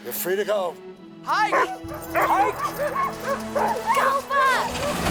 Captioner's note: Buck barking